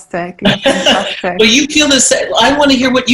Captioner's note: laughing